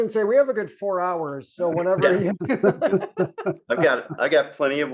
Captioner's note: laughter